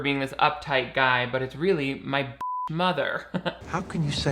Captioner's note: beep